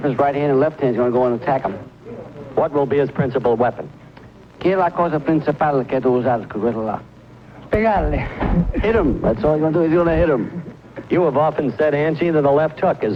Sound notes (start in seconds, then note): 4.7 speaks Spanish